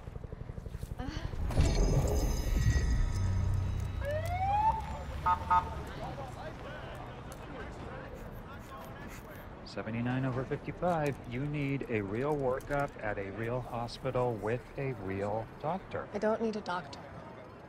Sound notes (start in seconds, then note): 1.0 sighs; 3.2 siren blares, chirps; 7.7 pumping sphygmomanometer